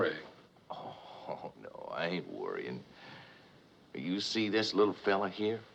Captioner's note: chuckling